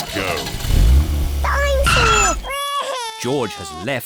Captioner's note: wails